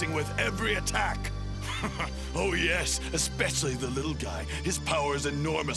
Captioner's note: chuckles confidently